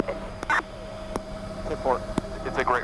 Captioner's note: radio beeping